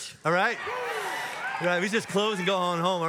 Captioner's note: audience cheers